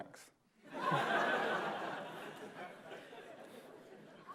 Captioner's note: laughter